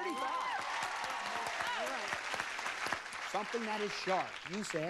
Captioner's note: crowd cheers